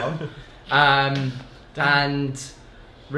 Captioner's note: laugh